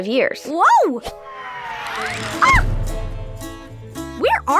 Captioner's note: loud whooshing and thudding